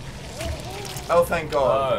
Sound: squelching

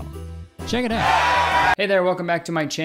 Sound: crowd cheering

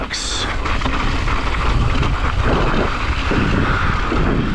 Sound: gravel crunching

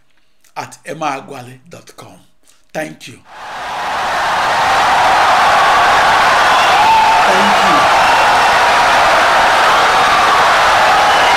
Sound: wild applause and cheering for 17 seconds

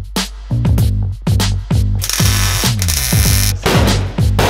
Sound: welder crackling

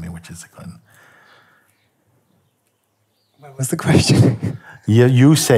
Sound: laughs

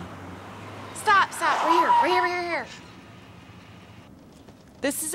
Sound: brakes screech

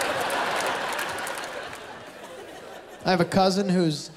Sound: laughter, applause; laughter

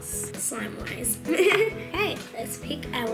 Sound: laughing

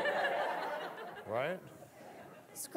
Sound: audience laughing

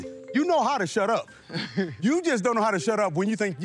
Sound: chuckles

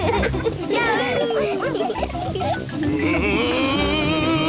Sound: all giggle

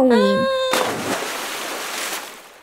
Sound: splash!

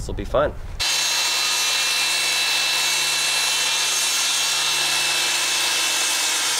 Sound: saw noise

